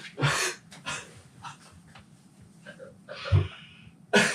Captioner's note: all laughing